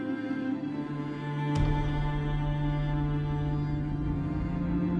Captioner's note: gunshot blasting; tense orchestral music continues